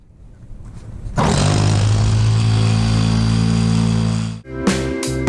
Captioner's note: sawing noises